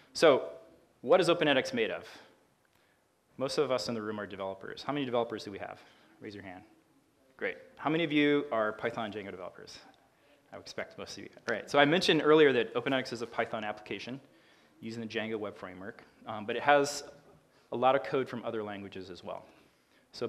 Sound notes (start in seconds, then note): none